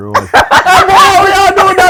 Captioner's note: laughter